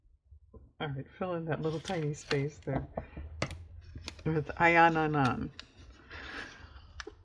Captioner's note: laughs